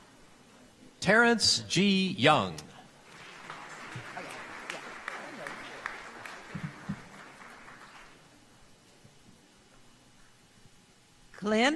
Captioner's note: applause